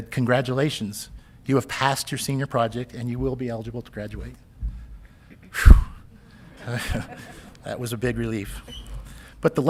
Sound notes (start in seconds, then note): 6.5 audience laughing